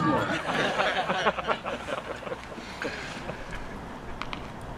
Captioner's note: audience laughing